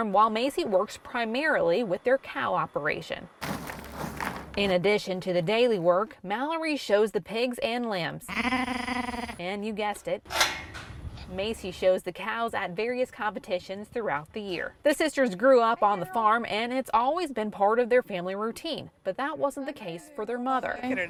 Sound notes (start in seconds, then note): 3.4 sound of stirring feed; 8.2 lamb sounds